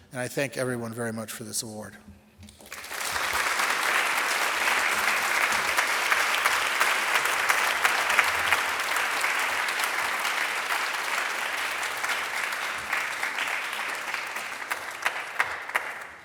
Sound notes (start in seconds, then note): 2.9 audience applauding